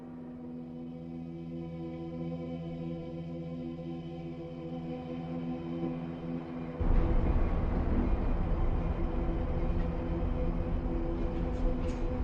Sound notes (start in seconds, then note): 6.8 train rumbles